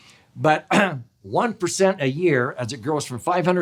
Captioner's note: clears throat